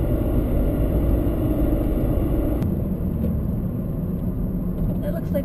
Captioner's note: engine